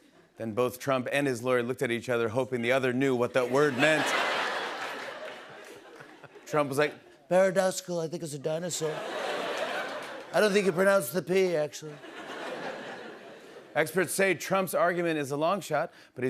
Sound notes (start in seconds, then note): 3.4 laughter